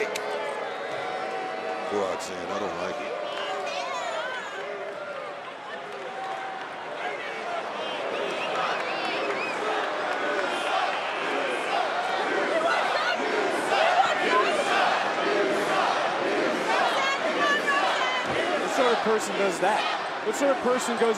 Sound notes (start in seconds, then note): 7.0 crowd chants "you suck"